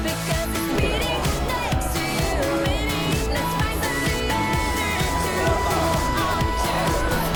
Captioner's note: tears